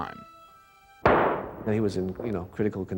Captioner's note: gunfire pops